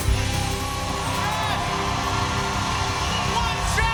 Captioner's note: cheers and applause